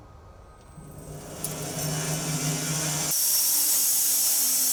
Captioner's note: machine whirring